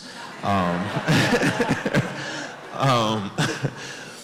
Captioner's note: audience laughs